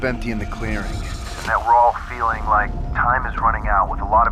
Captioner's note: on phone